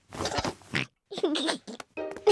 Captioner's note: oinks and giggles